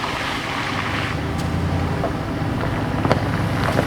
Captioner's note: gravel crunching